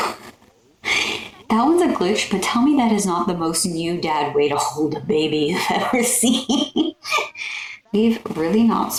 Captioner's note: laugh; laugh